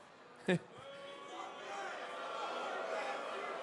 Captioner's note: crowd boos